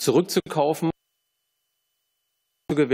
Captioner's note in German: Tonstörung